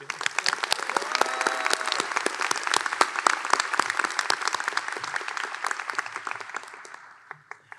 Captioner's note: applause and cheers